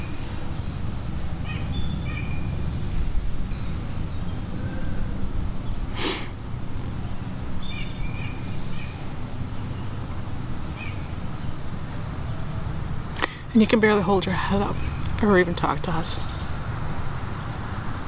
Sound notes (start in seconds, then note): 1.7 birds chirping; 5.9 inhales heavily